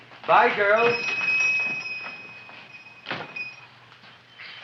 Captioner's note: shop bell dings